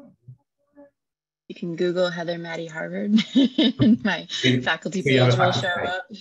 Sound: laughs

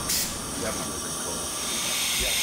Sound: whooshing

